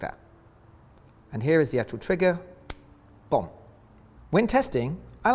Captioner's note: trigger snaps